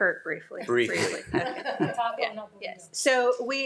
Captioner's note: everyone chuckling